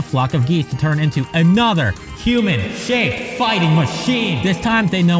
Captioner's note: echoing voice